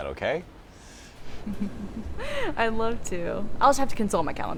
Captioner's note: chuckles